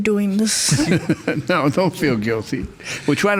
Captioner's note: laughs